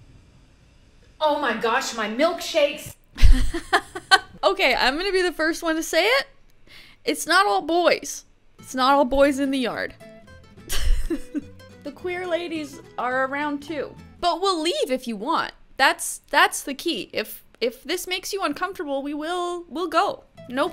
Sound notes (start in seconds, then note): 3.2 laughing; 10.6 light laughter